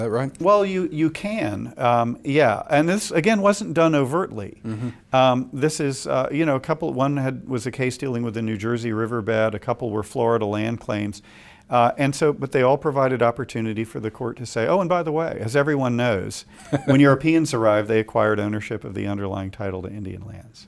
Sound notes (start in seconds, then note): 16.6 laughs